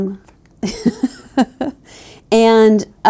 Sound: laughs

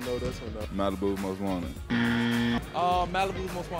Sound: incorrect buzzer goes off

